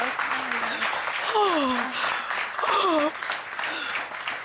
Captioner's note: gasping